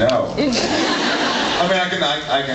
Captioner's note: laughs